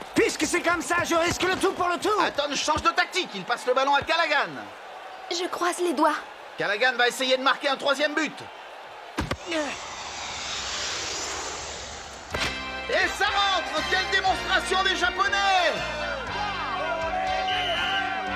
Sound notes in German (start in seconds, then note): 9.7 beifall